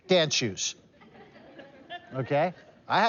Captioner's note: laughter